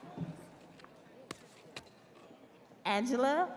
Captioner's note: audience cheering